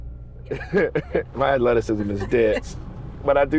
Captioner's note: chuckling